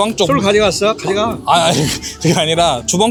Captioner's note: laughs